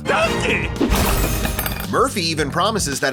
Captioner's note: crash